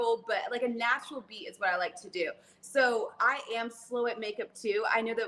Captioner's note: none